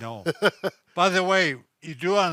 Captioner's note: chuckling